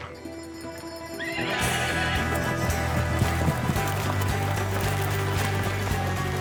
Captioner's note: horse neighs, starts bucking